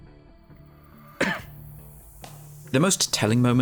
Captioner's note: cough